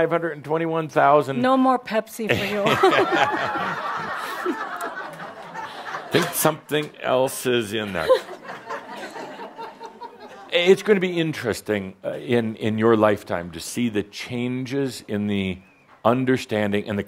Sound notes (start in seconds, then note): 2.3 laughter; 7.8 more chuckles